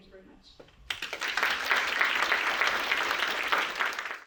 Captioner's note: applause